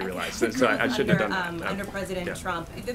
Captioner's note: laughs